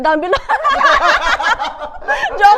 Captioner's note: laughs